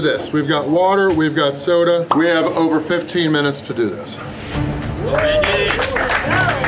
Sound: crowd cheering

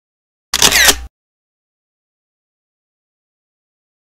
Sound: camera shutters

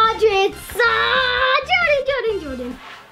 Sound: groans

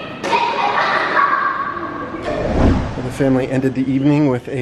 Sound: kids laughing

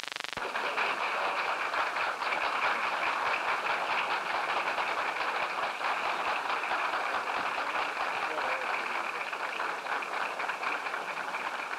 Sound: applause

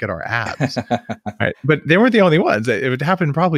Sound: laughs

